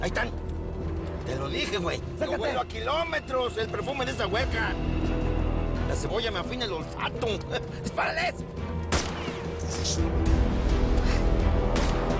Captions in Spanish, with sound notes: - AHI ESTAN. TE LO DIJE, GUEY. - !ACERCATE! - YO HUELO A KILOMETROS EL PERFUME DE ESA HUERCA. LA CEBOLLA ME AFINA EL OLFATO. !DISPARALES! [Disparos] - !CH---!